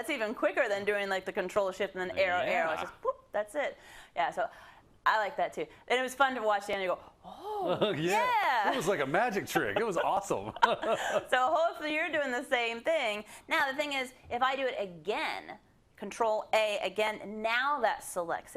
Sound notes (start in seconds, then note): 9.5 laugh